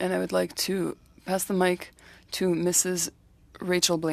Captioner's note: speaking French